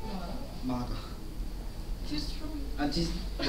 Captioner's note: speaking Korean